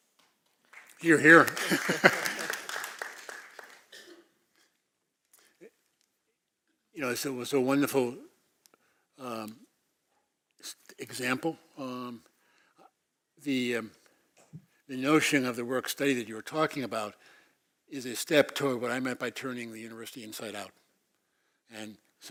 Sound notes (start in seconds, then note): 0.6 applause; 1.4 laugh; 3.9 cough